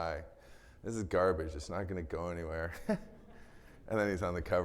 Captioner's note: laughs